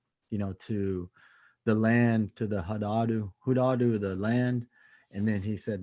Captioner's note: speaks in native language